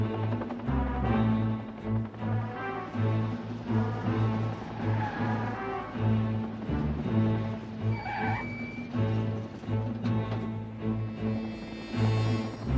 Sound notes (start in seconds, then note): 0.2 helicopter rotors whirring; 5.3 car tires screeching